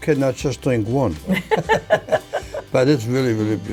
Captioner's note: laughs